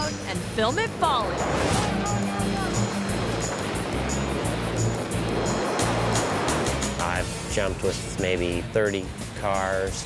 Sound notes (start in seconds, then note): 1.0 airplane whooshes; 1.7 yells